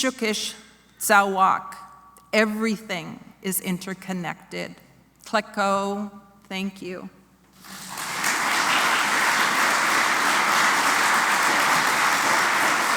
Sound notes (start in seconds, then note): 7.6 applause